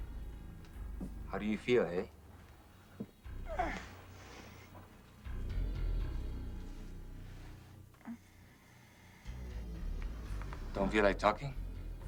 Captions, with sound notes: How do you feel, aye? (Donna groaning) (foreboding music) Don't feel like talking?